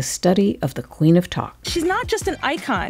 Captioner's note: soundbite of archived recording